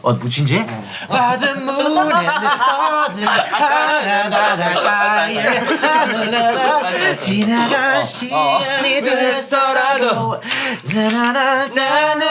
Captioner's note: jokingly laughs